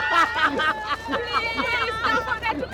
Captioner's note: laughing